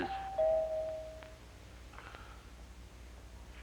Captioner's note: doorbell Rings